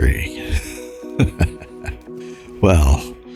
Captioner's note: laughs